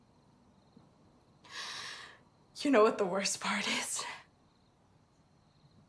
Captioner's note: sharp inhale